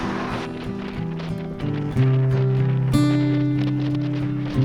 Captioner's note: wind whooshing